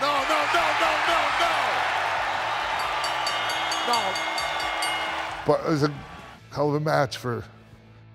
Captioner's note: applause